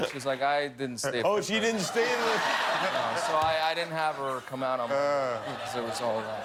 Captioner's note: laughter